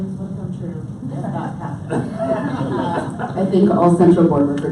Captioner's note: audience laughs